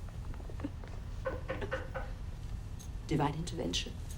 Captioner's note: door knocking